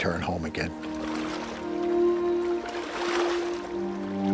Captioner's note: water splashing